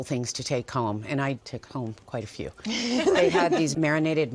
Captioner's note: laughter